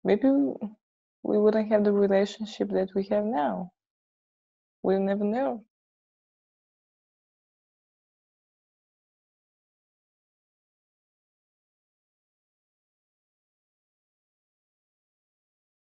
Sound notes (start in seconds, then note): none